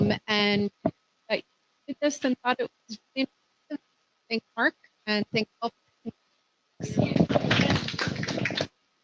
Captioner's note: applause